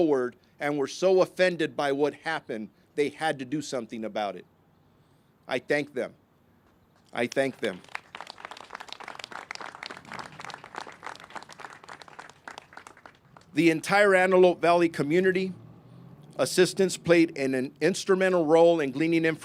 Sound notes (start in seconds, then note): 10.4 applause